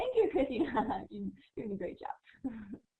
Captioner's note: laughter